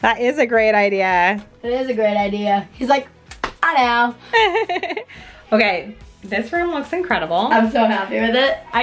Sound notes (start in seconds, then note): 4.3 laughs